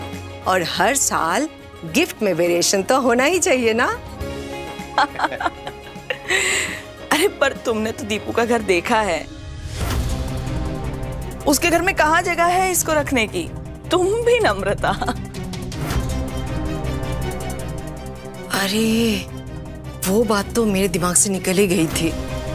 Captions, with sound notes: And there must be a variation in gifts every year. [chuckling] But you know where Dipu lives. Her house doesn't have enough space to keep it. Namrata, you are really something. Oh! I completely forgot about it.